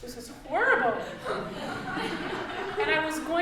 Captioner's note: audience laughing